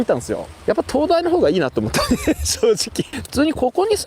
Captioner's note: laughs